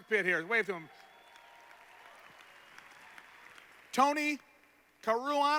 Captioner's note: applause